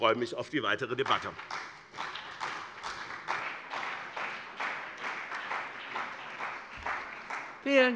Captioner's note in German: Beifall bei dem BÜNDNIS 90/DIE GRÜNEN und der CDU